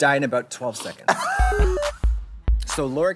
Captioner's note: Trixie laughs